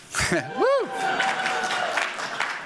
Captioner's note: applause